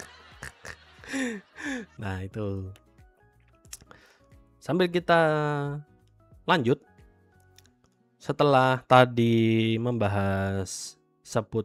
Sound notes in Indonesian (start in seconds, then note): 0.0 tertawa; 1.0 terkesiap